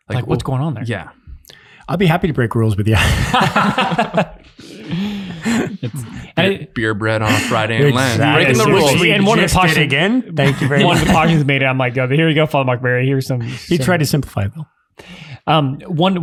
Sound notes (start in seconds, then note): 2.9 all laughing